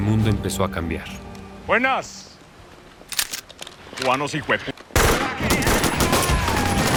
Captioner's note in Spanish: Disparos